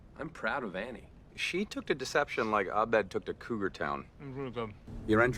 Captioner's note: while chewing food